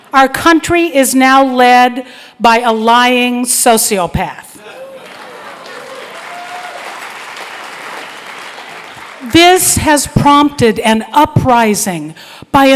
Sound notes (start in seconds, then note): 4.7 applause